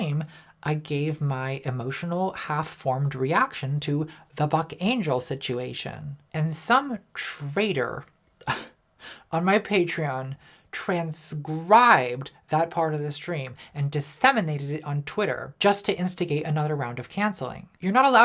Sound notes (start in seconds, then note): 9.4 scoffs